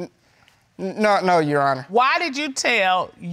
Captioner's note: stammers